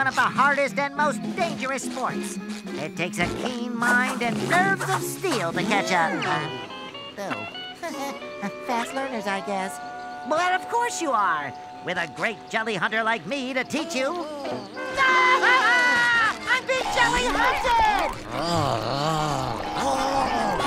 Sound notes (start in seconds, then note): 7.3 chuckles; 13.6 laughing